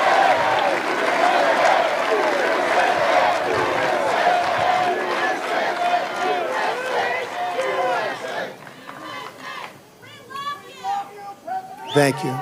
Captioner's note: chanting u.s.a